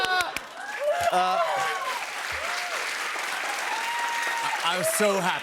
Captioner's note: cheers and applause